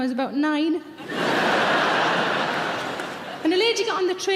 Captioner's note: audience laugh